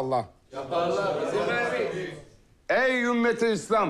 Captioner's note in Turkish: Hep bir ağızdan